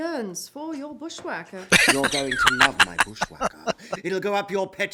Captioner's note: laughing